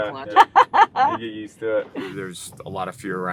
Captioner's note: laughing